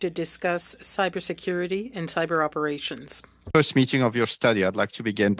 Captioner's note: speaking French